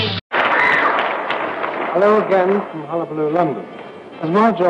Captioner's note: cheers and applause